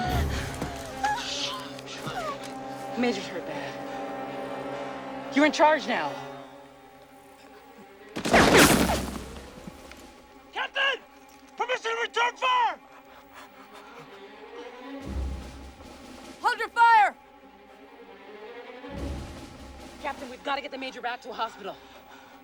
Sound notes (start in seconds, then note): 0.0 Warzenak Sobbing; 8.2 machine Gun Fire; 12.8 panting